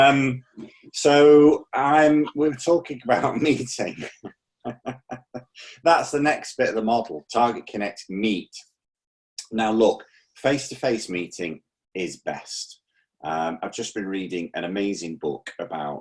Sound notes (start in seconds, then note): 0.0 laughing; 4.6 laughing